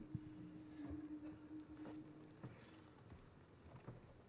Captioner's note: humming